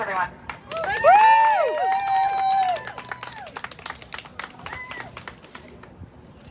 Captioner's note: cheering